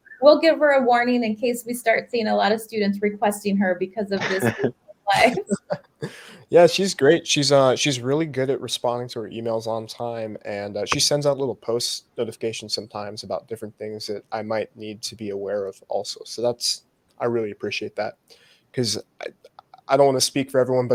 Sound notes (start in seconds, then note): 4.1 both laugh